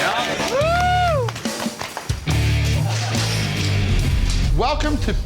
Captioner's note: cheering